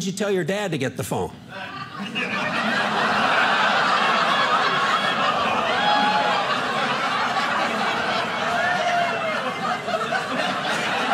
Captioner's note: audience laughing